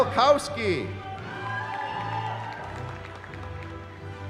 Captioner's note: cheering